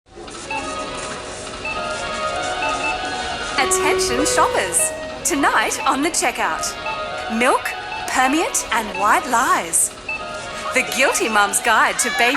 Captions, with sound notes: This Program is Captioned Live. (Beeping) (Announcement bell)